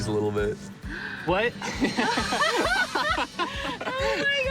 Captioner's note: both laughing